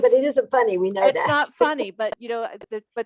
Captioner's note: laughing